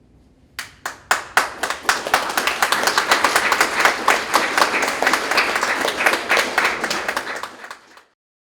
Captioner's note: graduates Clapping